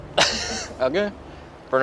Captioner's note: laughs